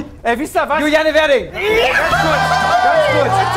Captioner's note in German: Jubel